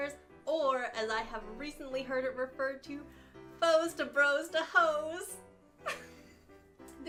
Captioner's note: laughs